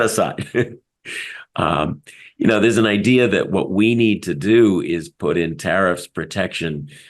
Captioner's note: laugh